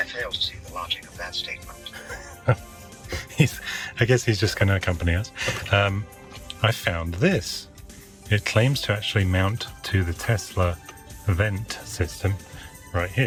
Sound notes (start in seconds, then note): 1.8 laughs